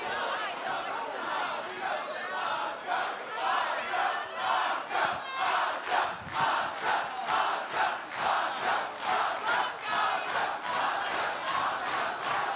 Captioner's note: fans chanting